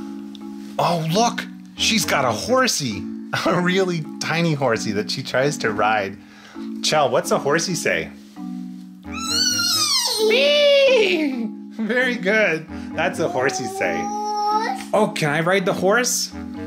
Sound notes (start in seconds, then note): 9.1 both neighing